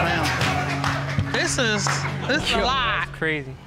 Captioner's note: audience laughs